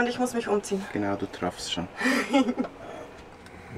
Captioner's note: laughs